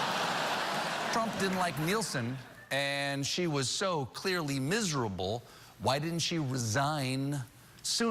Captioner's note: laughter